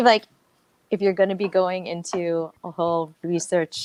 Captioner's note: none